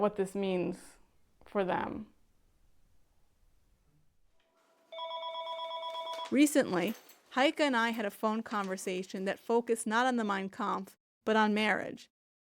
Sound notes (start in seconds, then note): 5.0 ringing